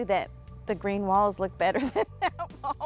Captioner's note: laughing